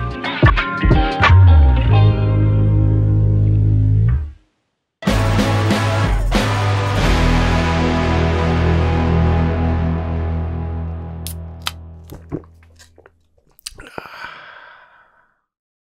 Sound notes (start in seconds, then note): 3.9 beer can opening; 13.8 gulping